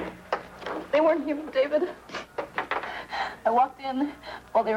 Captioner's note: sobs